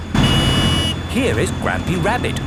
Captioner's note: honking